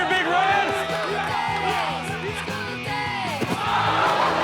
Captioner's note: crowd exclaims; crowd laughing and exclaiming